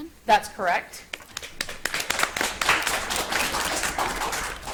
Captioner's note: audience applauds